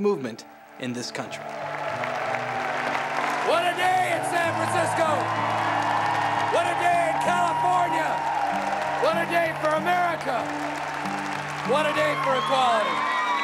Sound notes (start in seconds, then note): 1.2 applause